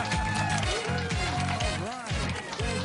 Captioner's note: applause